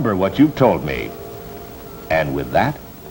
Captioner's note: birds chirp outside